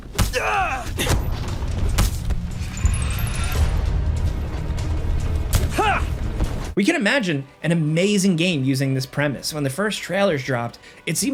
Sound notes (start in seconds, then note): 0.3 character grunting; 2.2 blows landing; 4.3 tense music